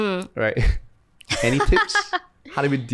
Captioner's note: laughs